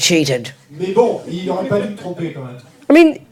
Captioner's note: audience member speaks in French